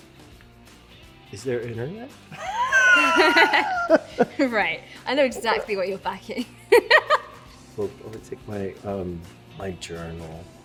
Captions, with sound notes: Is there internet? (LAUGHTER) Right, I know exactly what you're packing. (LAUGHS) Well, I would take my-- my journal.